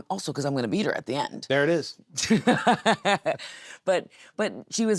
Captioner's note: Nattie laughs